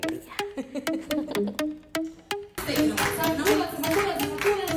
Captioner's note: Ríe; laughs